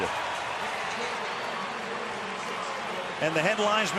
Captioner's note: cheering